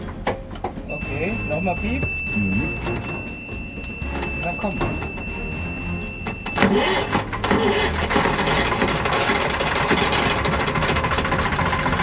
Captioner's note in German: Motor läuft